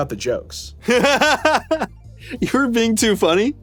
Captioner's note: laughing